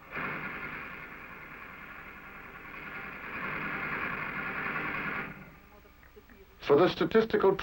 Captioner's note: television program playing in background